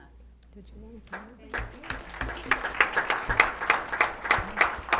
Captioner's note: applause